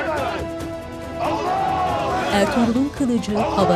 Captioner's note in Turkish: Hep bir ağızdan